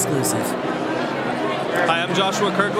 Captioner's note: CROWD noise